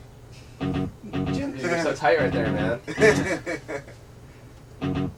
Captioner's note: guys laugh